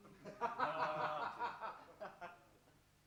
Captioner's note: some laughter